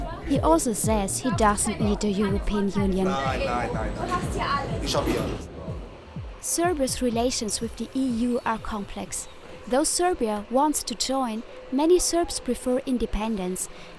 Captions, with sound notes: He also says he doesn’t need the European Union. I have here everything! [in German] Serbia’s relations with the EU are complex. Though Serbia wants to join, many Serbs prefer independence